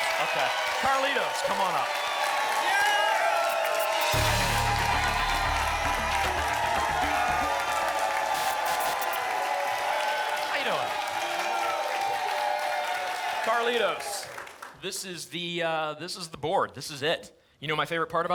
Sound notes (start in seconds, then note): 2.2 applause and cheering; 3.4 static; 6.8 applause and cheering cont; 7.7 static; 11.4 applause and cheering cont